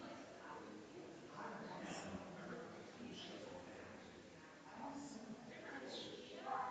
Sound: people chattering distantly continues

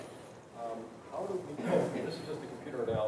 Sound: man coughing drowns out speech

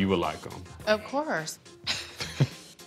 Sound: both chuckle

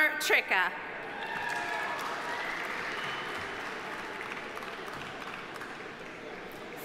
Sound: audience cheering; audience applauding

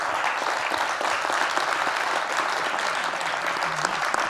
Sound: applause

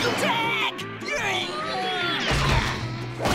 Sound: screams

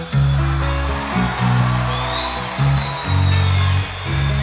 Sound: audience cheering

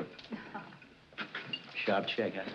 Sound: chuckles

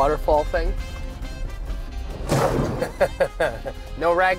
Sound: laughs

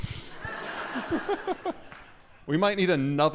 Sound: audience laughing

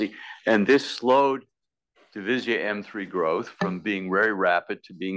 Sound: none

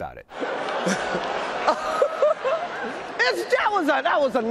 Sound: audience groans

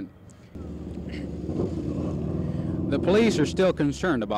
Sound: parking lot traffic noise

